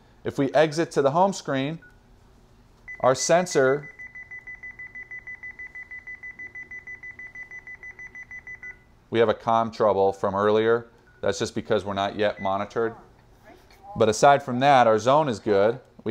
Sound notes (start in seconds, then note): 3.6 beeping